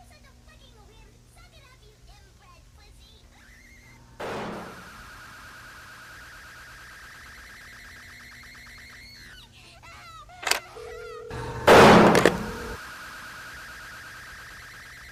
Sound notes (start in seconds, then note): 4.2 gun shot